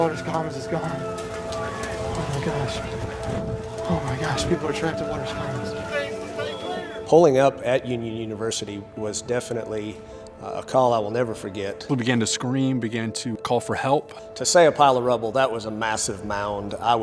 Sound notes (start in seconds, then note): 6.2 distant shouting